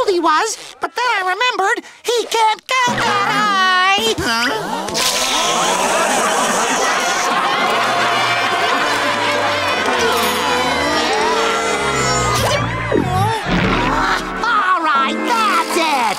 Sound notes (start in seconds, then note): 4.3 laughing